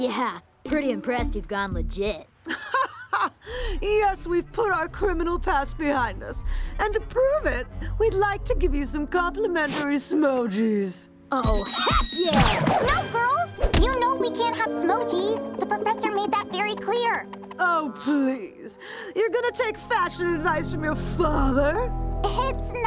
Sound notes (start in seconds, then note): 2.5 laughs